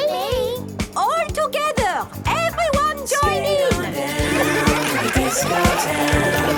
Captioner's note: laughter